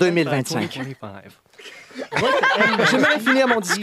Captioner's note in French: rires